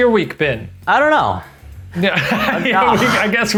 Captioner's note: laughs